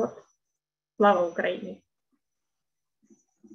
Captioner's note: ukrainian